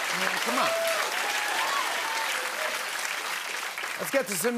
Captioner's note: cheers and applause